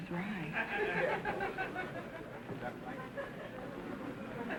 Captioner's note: audience chuckling